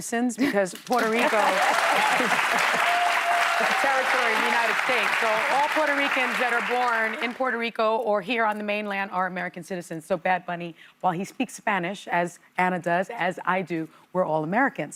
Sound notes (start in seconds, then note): 4.3 cheers and applause